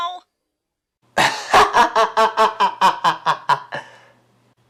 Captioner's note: laughs